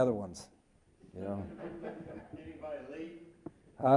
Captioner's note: all chuckle